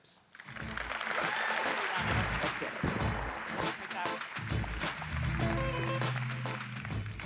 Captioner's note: audience applauds; pop music